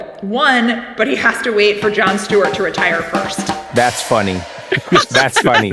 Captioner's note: laugh